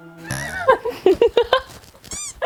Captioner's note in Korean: 푸흡